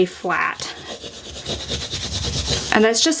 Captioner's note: scraper rubbing